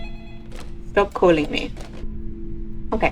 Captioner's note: phone rings; slams phone down